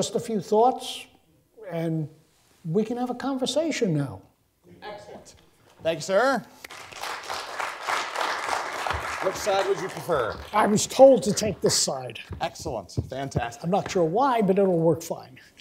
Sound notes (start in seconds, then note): 6.6 applause